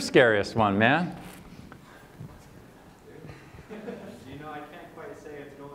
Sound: laughter

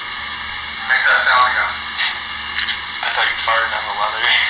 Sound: recorded Voice

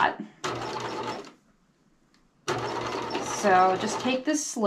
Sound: sewing machine clunking

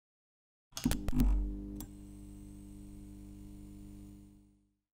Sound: electricity buzzing

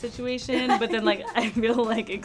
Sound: laughs

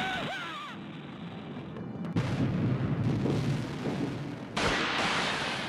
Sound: explosions

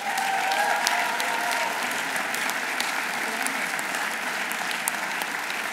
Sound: audience applauding; audience cheering

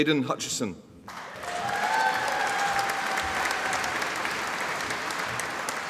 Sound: audience applauding

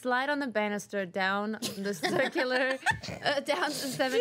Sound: girls laughing

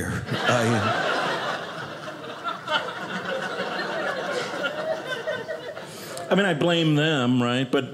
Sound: audience laughing

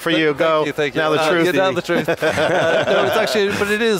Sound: laughs

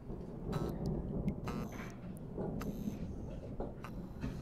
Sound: thunder rumbling

